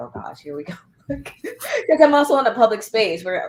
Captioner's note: laughter